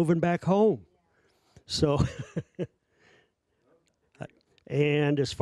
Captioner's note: laughing